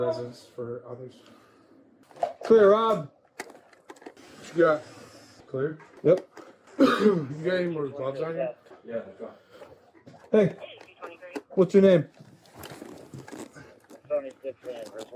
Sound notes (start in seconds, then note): 10.1 radio chatter; 13.9 radio chatter